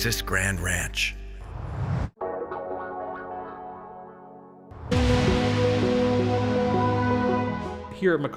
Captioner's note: whoosh; whoosh